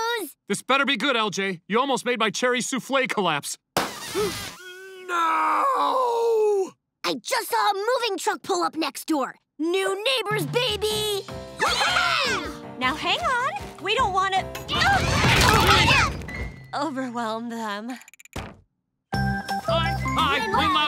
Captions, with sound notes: This better be good, LJ. You almost made my cherry soufflé collapse. N-noo! I just saw a moving truck pull up next door. New neighbors, baby! [cheering] Now hang on. We don't wanna... overwhelm them. Hi. Hi. Lynn Loud Sr.